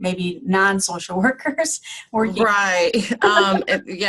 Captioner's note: laughing